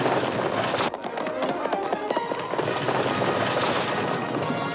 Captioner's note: gun firing; horses galloping